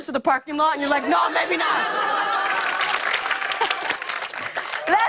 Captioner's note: laughter and applause